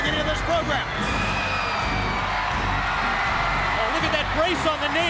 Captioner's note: fans cheering